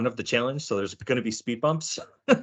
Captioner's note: laughing